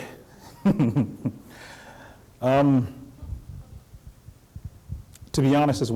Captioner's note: laughter